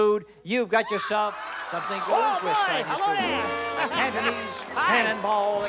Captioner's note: audience laughing over Monty